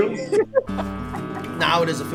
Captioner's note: laughing